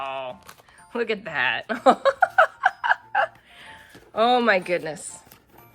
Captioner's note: laughs